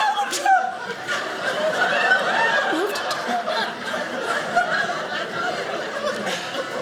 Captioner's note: audience laughing